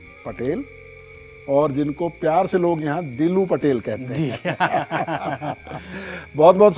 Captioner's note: laughs